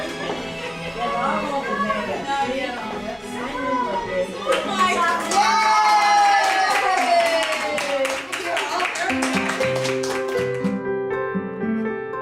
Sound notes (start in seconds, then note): 4.4 applause